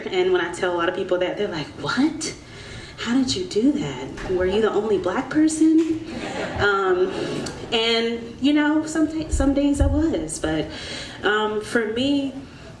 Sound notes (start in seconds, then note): 6.0 audience laughs